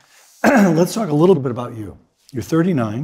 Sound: cough

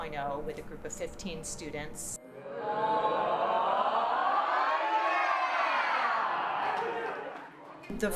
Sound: cheering

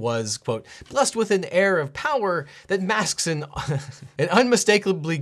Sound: chuckles

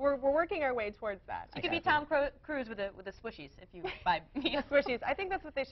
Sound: laughter

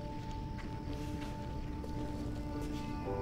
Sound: whistle

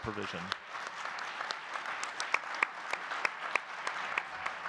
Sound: audience clapping

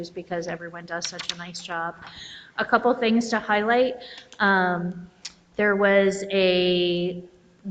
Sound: none

